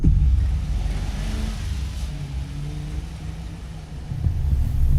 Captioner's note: car rumbling